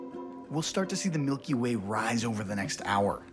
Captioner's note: doors clicking